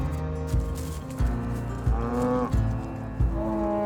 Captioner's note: cows moo